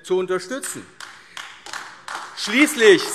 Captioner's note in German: Beifall AfD